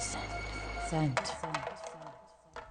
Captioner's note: spraycan drops